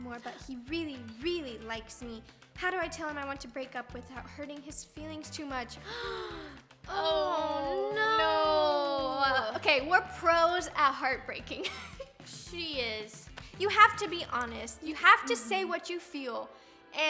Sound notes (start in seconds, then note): 5.8 gasping